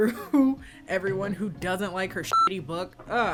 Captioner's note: beep